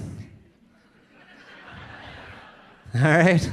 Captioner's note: audience laughing